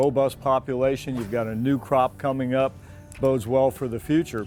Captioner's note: water splashing